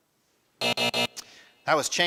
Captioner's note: alarm buzzes